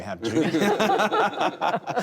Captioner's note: laughter